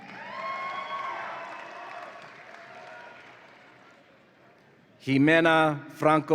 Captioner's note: audience applauds and cheers